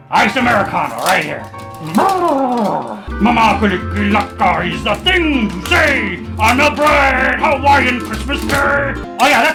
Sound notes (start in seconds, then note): 1.9 babbles; 3.3 hawaiian music